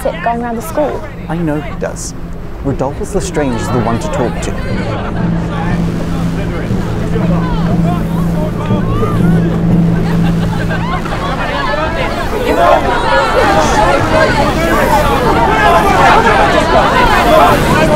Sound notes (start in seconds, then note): 5.2 students yelling excitedly; 5.2 tense music; 11.3 electrical crackling